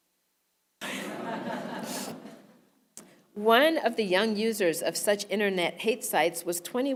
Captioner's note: laugh